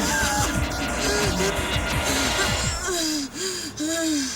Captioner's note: breathing heavily